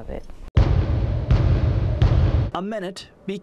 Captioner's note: loud banging